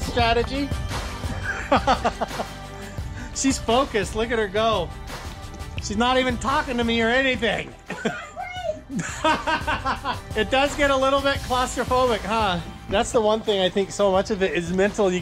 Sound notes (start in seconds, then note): 1.3 laughing; 7.8 laughing